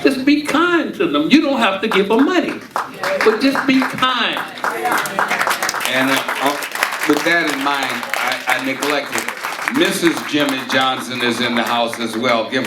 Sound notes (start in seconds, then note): 4.6 audience cheering and applauding